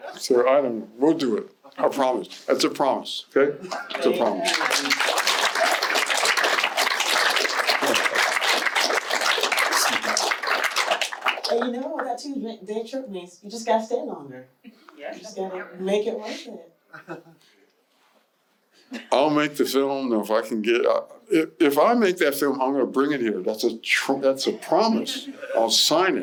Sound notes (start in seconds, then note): 5.8 applause